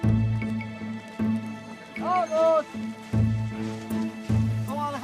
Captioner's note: man calls; man talking